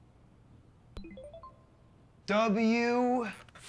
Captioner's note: cell phone chiming